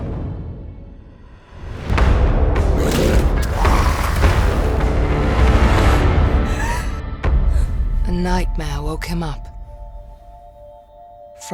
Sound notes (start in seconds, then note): 1.6 intense ambient music; 6.3 spooked exhale